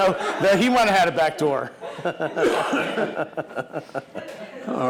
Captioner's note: laughing